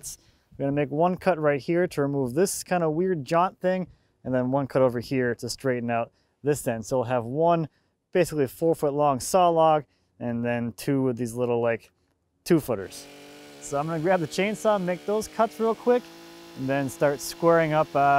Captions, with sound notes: We're gonna make one cut right here to remove this kinda weird jot thing, and then one cut over here to straighten out this end. So we'll have one basically four foot long saw log and then two of these little like, two footers. (mechanical sawing) So I'm gonna grab the chainsaw make those cuts real quick and then start squaring up